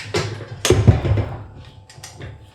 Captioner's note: clunk